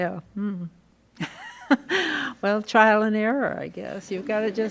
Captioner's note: laughs